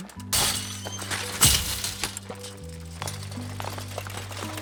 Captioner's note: fence clatters